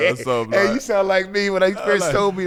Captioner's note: laughing